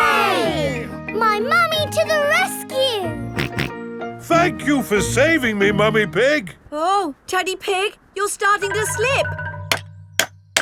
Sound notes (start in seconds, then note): 3.4 snorting; 10.4 clanking